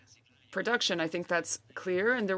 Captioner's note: speaking French